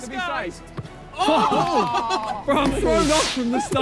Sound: players groan

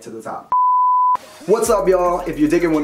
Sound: beeping

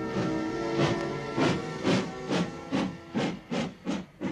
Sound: train thudding

